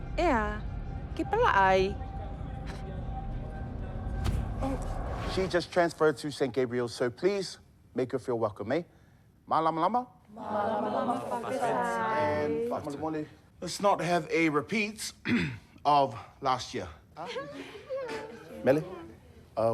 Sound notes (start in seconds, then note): 2.6 scoffs; 15.2 clears throat; 17.3 giggling, sniggering